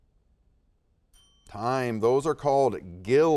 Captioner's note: timer dinging